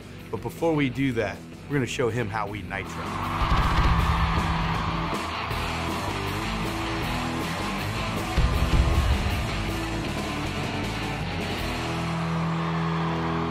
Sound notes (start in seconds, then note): 2.8 cheering